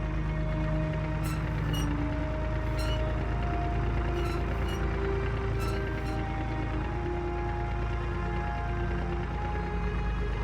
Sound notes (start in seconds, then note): none